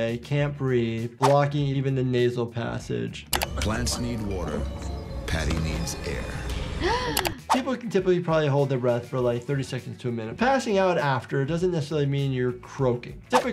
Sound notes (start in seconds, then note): 6.7 gasps